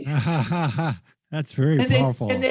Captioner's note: laughs